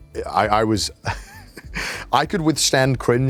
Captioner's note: laughs